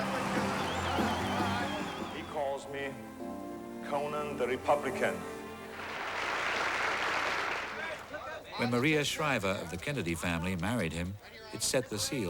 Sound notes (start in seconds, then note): 5.7 applause